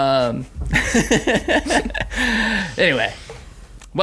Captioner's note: laughing